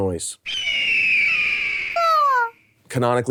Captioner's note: eagle screeching